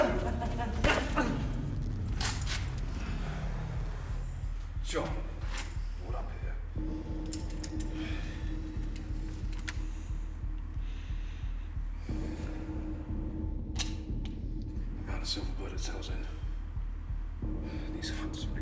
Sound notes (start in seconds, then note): 1.4 gun firing; 8.1 tense melodic music; 13.8 gun clicking